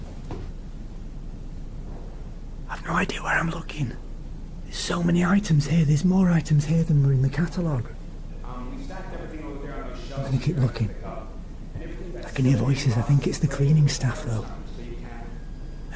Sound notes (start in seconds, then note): 2.7 whispers; 8.7 voices in distance